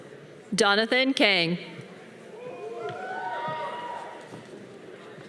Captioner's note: audience cheering